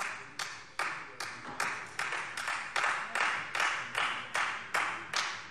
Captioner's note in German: Beifall Freie Demokraten